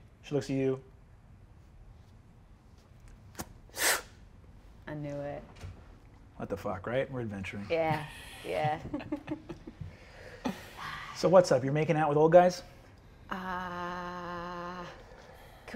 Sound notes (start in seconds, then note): 3.2 mimics lighter clicking and inhales sharply; 8.9 players chuckling